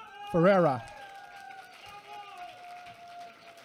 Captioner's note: applause